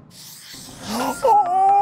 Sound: Karamo gasping

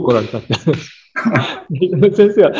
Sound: laughs

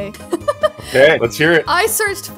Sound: laughs

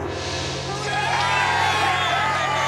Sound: cheering

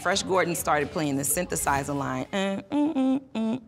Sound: humming tune

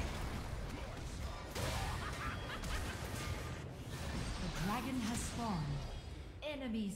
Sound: laugh

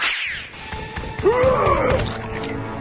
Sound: Boogie roars

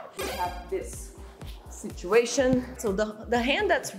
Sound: none

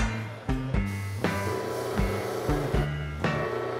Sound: machine humming

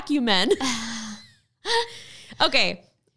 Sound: both laughing

